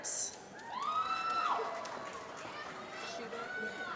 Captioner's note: applause